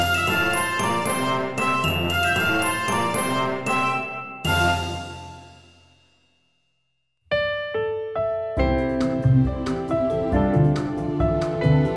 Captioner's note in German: Fröhlicher Computersound zum Abschluss